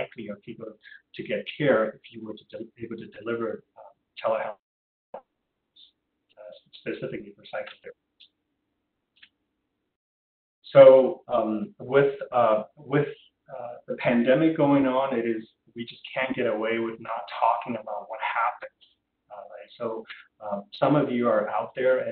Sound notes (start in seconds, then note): 5.2 audio drop